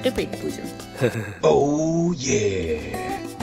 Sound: laughing

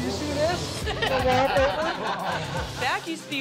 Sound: laughs

